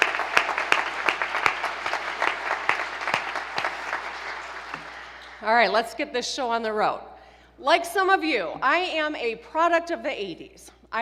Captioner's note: applause